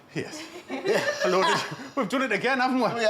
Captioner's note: women chuckle